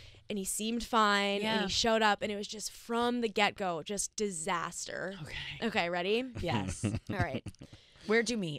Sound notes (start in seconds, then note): 6.4 chuckles